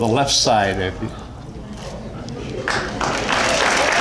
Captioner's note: excited Murmuring